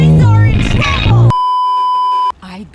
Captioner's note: beeeeeep